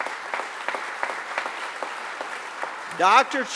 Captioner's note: applause